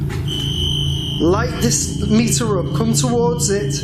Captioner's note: metre beeping